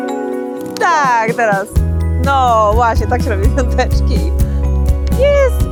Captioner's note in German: Beide sprechen in einer Fremdsprache